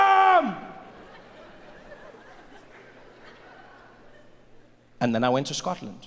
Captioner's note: audience laughing